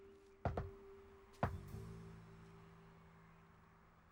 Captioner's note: knocks door